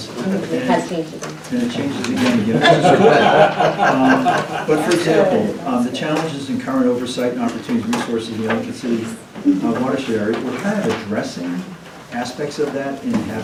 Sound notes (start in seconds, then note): 2.5 laughter